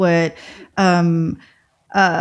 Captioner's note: uh